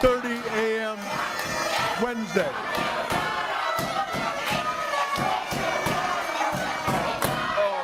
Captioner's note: audience screaming